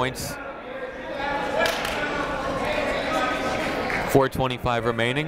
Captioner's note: people shouting in the crowd